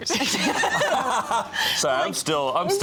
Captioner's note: all laughing